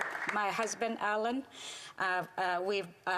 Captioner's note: some Applause